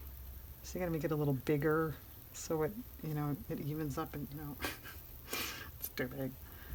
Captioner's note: laughs